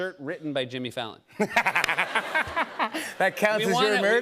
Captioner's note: laughter